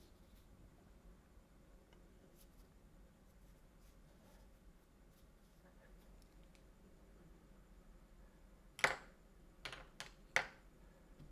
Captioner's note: silence